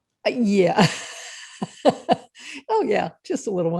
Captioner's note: laughing